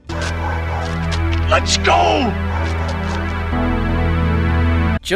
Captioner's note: dogs barking